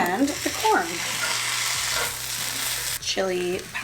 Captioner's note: sizzling